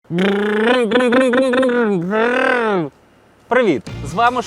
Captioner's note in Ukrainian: імітація голосом двигуна